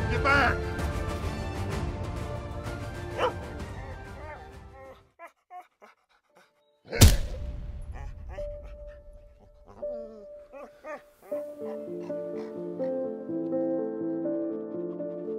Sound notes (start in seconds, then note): 3.1 Willamina barking; 11.3 gentle music